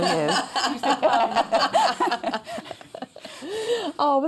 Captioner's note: laughter